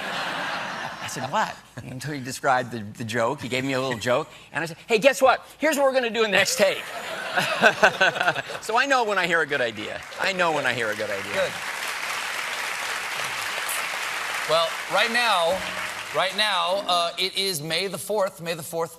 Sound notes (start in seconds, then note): 13.5 applause